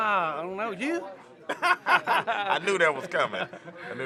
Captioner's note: both laugh